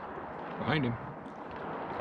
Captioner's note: water lapping